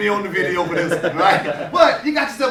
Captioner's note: laughter